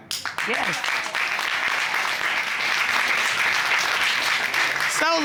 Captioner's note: applause